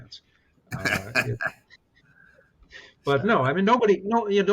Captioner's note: laughs